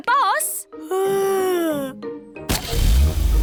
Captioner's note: yawns